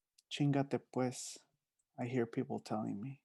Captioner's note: speaking in foreign language